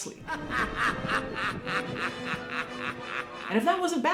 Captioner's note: laughing